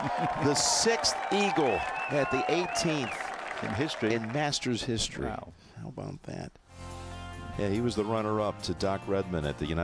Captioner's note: cheers and applause